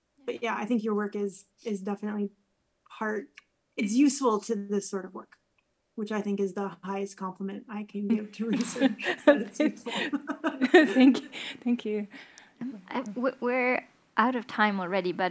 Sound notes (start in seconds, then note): 10.8 chuckles